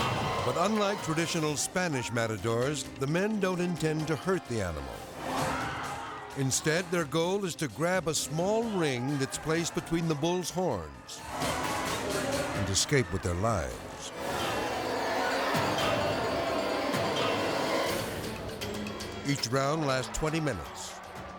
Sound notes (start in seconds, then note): 5.1 people screaming; 11.1 tense music; 14.0 tense music